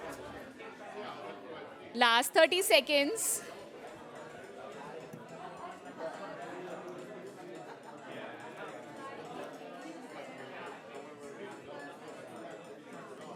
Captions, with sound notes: Last 30 seconds. [CHATTER]